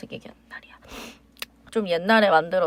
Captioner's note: sniffle